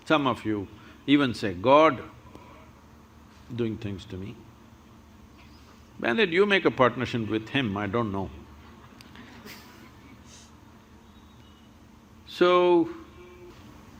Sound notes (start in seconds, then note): 8.5 laughs